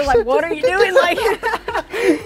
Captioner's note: both laugh